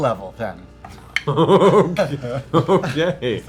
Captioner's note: laughing